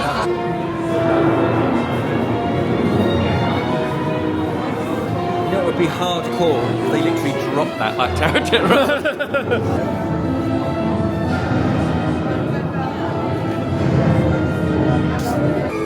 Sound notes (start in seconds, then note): 0.2 thunder crashing; 1.1 eerie music; 8.0 laughing; 10.6 eerie music; 10.6 thunder rumbles